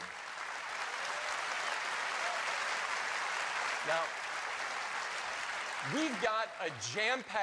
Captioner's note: applause